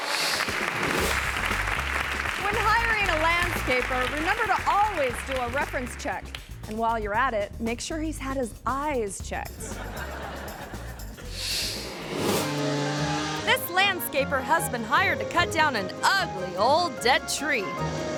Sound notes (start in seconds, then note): 0.0 audience applauding; 9.6 audience laughing; 12.4 chainsaw roaring